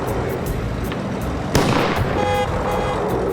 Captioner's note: car backfires; horn honking